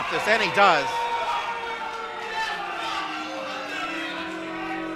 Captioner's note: crowd booing